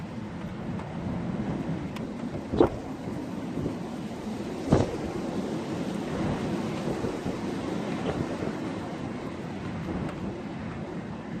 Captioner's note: wind noise; wind gust; wind noise